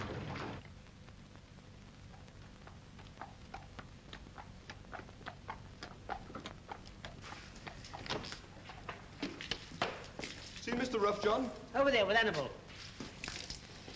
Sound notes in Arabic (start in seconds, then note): 2.0 حوافر تنقر بهدوء